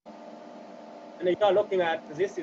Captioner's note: machine sounds